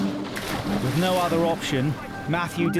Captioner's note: water splashes